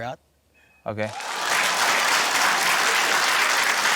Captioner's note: cheering, applause